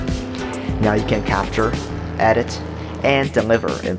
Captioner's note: engine revving